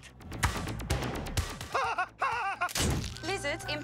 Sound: mad giggling

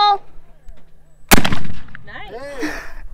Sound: gunshot

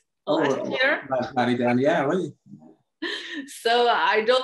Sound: speaks french

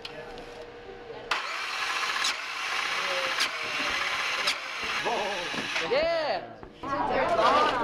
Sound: sound of electric motor running

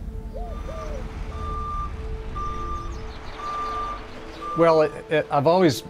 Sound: machinery beeping

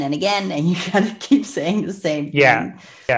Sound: laughs

